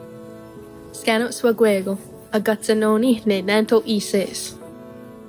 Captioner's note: speaking Cayuga